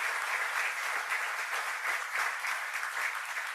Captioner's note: applause